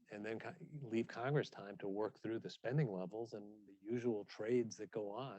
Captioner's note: none